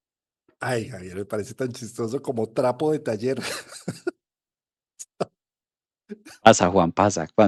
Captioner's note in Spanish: risas